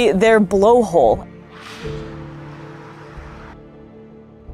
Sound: background music; noise of cetacean blowing air out of blowhole; background music

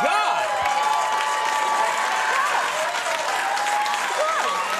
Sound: audience cheers

